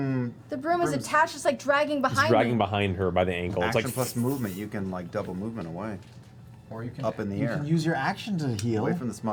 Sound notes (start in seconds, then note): 4.5 shuffling noise